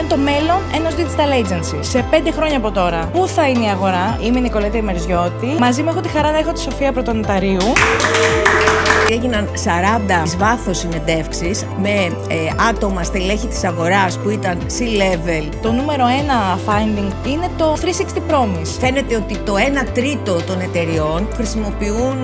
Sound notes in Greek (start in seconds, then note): 7.6 χειροκρότημα